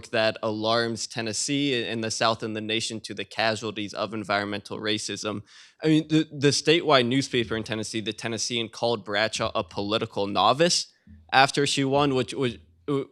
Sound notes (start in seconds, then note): none